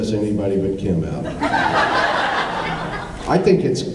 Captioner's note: laughs